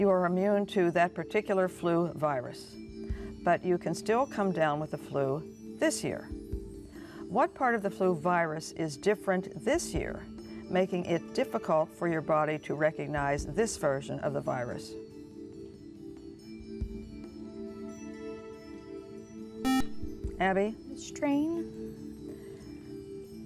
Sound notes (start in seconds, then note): 15.9 whispering; 19.6 buzzer